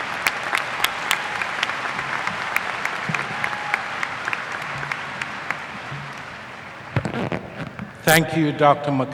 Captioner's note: applause